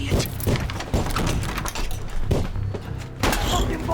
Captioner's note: gunshots